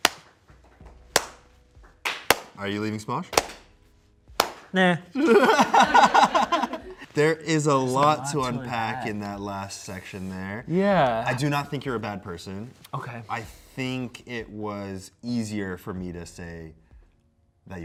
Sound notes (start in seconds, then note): 0.2 applauds; 5.1 and crew laugh